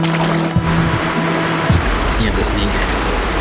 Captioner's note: water splashing